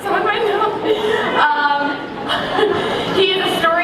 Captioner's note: laughter